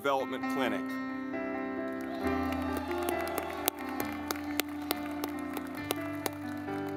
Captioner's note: gentle music; audience clapping